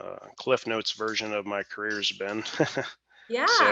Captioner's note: laughs